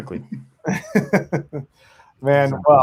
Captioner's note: both laughing